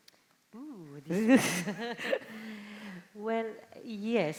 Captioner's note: chuckling